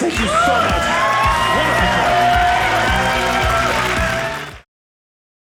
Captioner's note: audience cheering